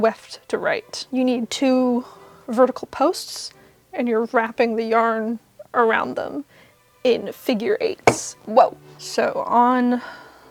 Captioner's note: thonk